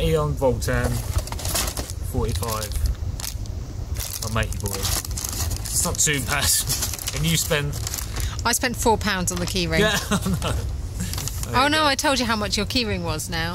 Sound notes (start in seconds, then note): 9.7 laughs